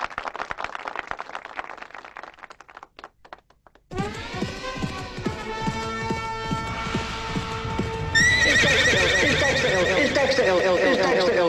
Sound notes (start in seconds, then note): 4.0 fanfare; 8.1 horse galloping and neighing